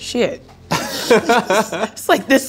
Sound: laughing

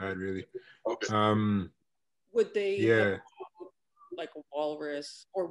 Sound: internet distortion

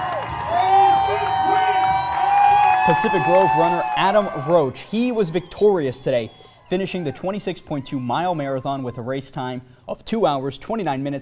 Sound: cheers

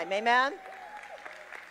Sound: congregation clapping

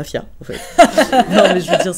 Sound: laughs

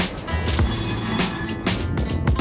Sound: train ringing

